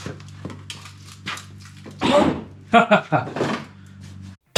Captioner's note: motor Runs